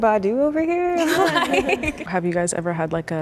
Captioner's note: group chuckles